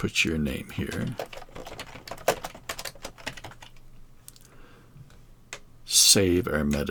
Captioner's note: keys clicking